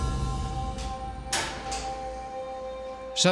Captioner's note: metallic clang